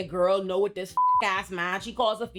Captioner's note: beep